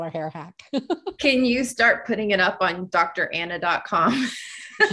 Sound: both laugh

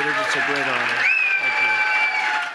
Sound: applause

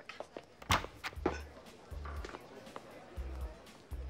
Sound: door clicks

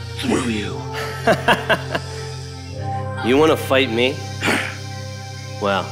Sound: BATMAN grunts

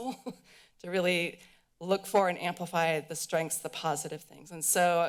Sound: laughter

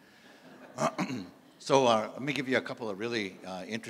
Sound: clears throat

